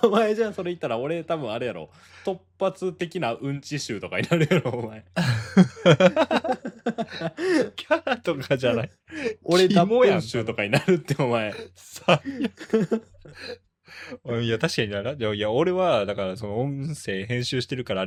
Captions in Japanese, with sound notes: お前じゃん。それ言ったら俺多分あれやろ。 突発的なんち集とかになるやろ。お前キャラとかじゃない。 [笑い] 俺集とかになるって。お前最悪。お [笑い] いや、確かにならや俺はだからその音声編集してるからあれやけど